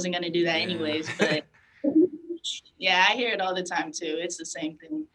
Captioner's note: chuckles